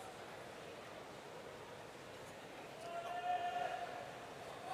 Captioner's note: none